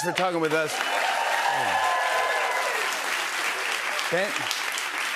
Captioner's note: cheers and applause